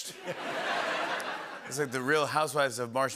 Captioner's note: laughter